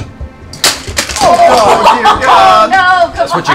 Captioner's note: loud clatter